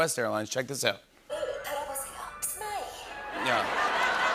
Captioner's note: speaking Korean; laughter and applause